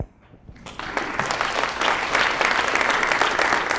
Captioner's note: applause